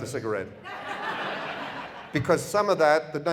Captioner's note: audience laughter